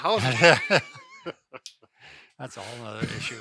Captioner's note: laughs